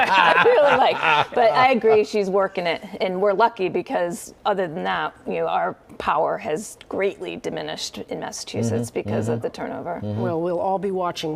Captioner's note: laughter